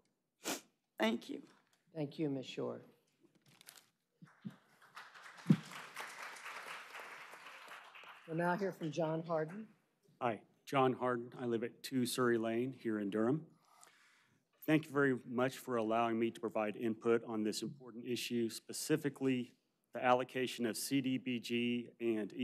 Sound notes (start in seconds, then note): 8.9 applause